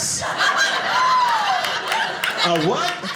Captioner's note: audience laughing